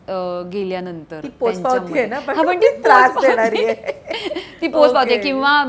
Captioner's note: Chuckles